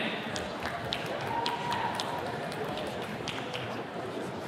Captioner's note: attendee clapping